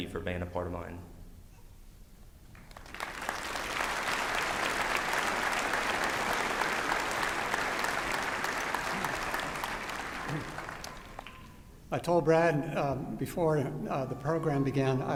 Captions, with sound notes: for being a part of mine. [APPLAUSE] I told Brad before the program began